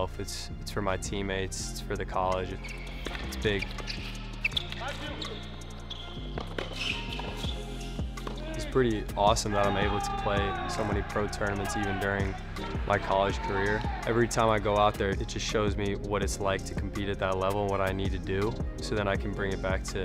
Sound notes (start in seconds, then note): 4.8 shoes squeaking on court